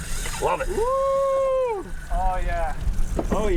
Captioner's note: whooping